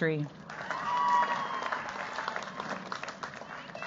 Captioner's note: cheers, applause